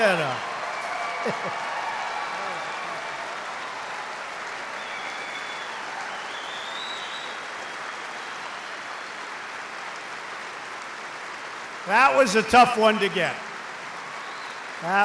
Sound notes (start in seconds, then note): 1.2 laughter; 3.2 applause